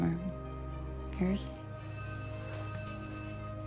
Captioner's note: bell rings